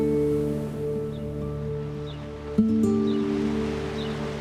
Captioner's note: bird chirps